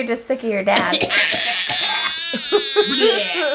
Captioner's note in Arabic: السعال; صراخ